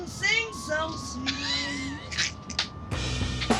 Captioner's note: laughs